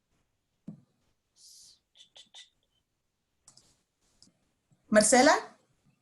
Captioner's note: tongue clicking